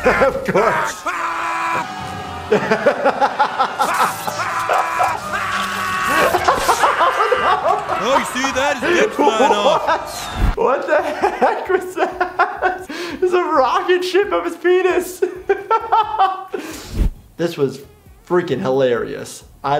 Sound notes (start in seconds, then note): 0.0 grunting; 0.0 laughter; 2.4 laughter; 3.6 screaming; 15.2 laughter